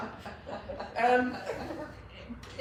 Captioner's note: laughs